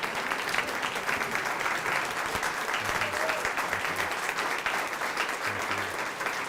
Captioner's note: applause